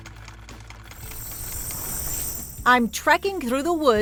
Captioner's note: sewing machine clicks; insects chirp